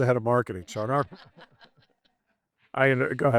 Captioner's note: both laughing